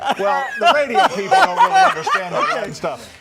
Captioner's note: laughter